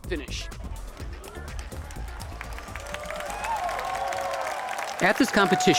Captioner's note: applause